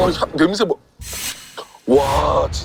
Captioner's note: sniff